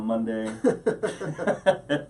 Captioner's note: laughing